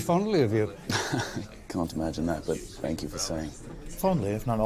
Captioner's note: chuckles